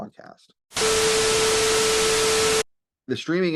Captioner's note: Static